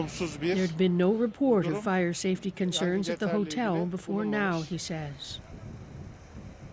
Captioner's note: speaking alternate language